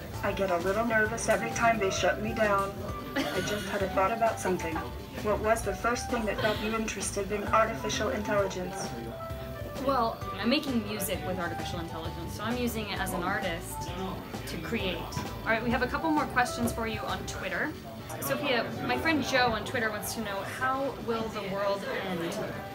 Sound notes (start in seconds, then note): 3.1 laughs